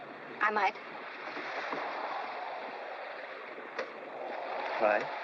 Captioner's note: ocean spray and wind howling